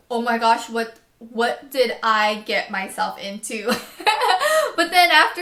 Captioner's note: laughs